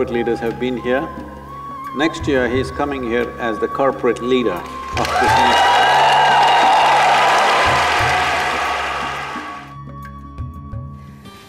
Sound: applause

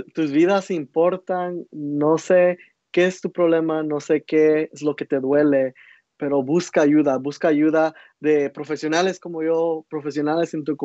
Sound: speaking Spanish

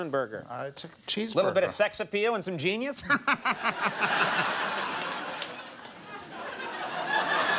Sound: laughs; audience laughing

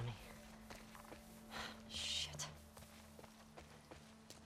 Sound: sigh

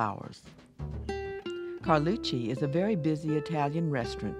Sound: jazz music; voiceover

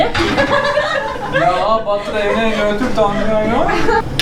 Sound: laughs

